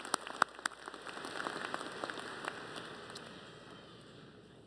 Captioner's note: applause